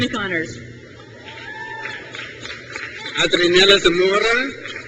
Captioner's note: crowd cheers